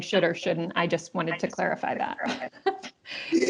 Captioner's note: laughs